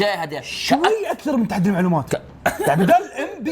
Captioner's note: chuckles